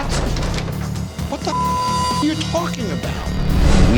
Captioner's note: beep